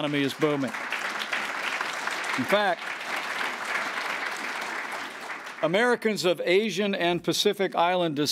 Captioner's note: applause